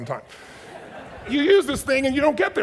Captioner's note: audience chuckles